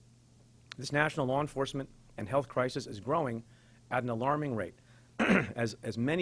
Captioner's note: clears throat